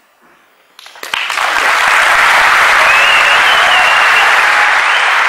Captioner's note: applause